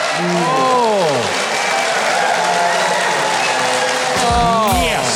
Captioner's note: audience cheering and clapping